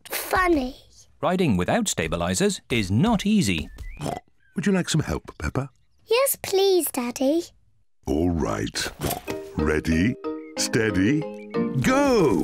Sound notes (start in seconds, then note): 3.0 snorts; 8.5 snorts